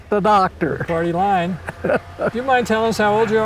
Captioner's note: laughs